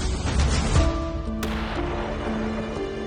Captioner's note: gunshot